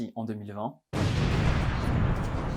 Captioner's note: boom!